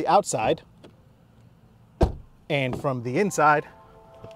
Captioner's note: door slams